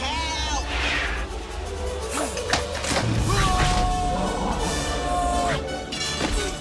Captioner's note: grunts; groans, Grunts